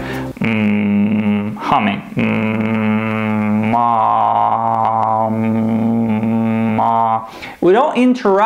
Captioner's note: humming